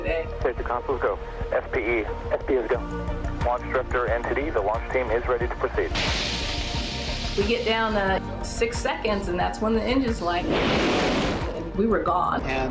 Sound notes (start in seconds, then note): 5.9 sparks ignite; 10.4 engines ignite